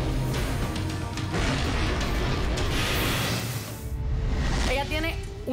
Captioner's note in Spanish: Estruendo